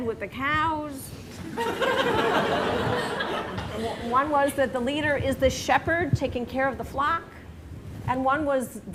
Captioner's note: laughter